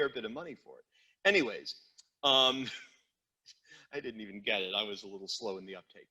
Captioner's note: chuckles